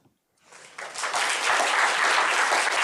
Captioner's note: applause